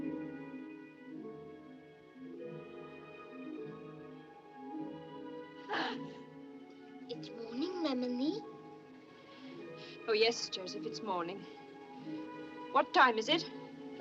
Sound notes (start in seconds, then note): 5.7 gasps